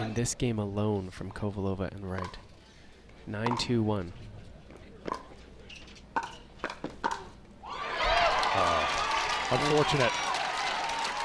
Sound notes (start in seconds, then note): 7.8 crowd applauds